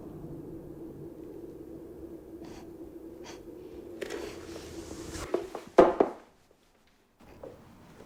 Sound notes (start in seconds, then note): 2.4 gasping